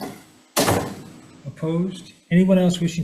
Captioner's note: door thuds